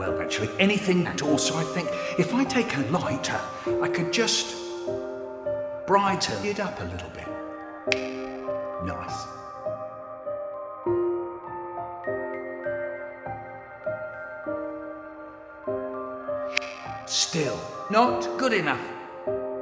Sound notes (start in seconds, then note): 7.9 snaps lighter on; 16.5 unsnaps lighter off